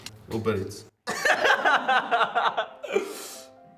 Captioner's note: laughing